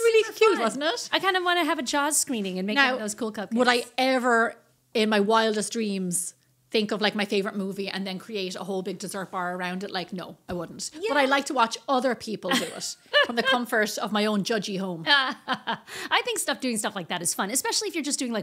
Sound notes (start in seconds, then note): 15.1 laughing